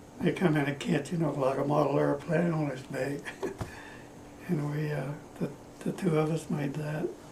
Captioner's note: laughs